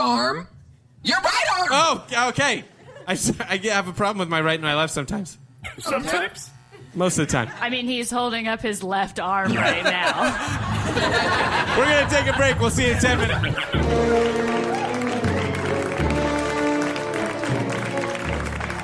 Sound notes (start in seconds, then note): 9.4 audience and cast laughter